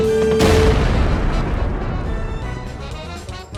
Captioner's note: wacky music; explosion echoing; wacky music